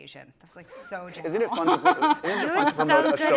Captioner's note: laughs